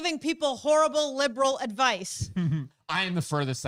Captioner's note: laughs